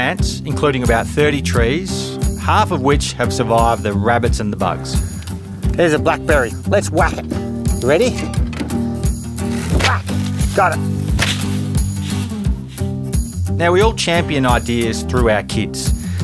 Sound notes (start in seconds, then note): 9.6 whack